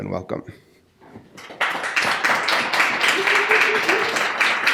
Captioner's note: audience applauds